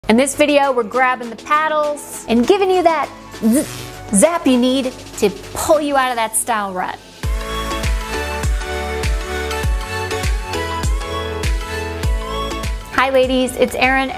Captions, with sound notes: - In this video, we're grabbing the paddles and giving you that (electricity humming) zap you need to pull you out of that style rut. (upbeat music) Hi ladies. It's Erin.